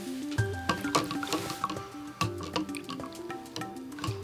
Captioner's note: water swooshes